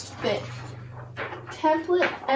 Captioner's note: paper rustling